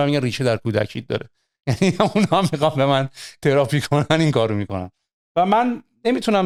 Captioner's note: laughter